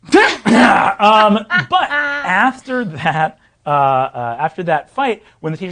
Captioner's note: laughing